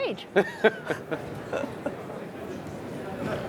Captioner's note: laughing